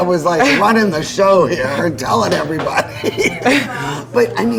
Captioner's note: chuckling